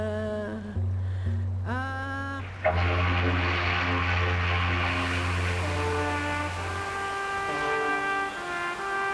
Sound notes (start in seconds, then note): 2.4 ship's horn sounding